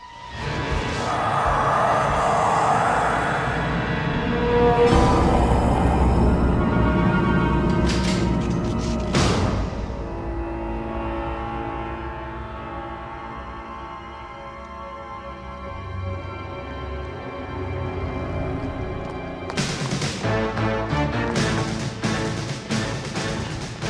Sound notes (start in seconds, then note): 2.7 soft intense music; 7.6 gun cocking; 11.1 soft tense orchestral music; 19.8 rapid tense orchestral music